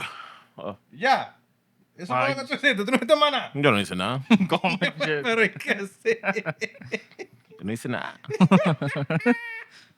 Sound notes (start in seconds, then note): 4.0 laughter; 4.0 speaking Spanish; 8.2 laughter